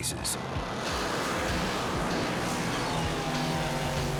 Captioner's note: engine roaring